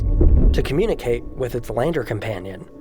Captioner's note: thunk